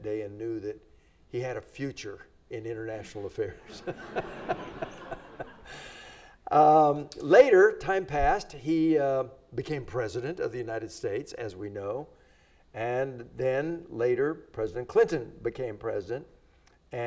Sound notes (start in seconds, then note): 3.6 everybody laughs